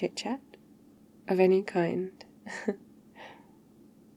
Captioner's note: laughs